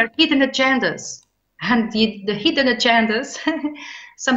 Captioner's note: chuckles